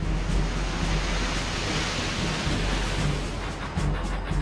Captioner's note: waves crashing